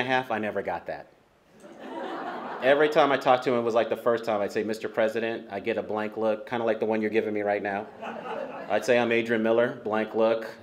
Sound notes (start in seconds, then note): 1.6 laughter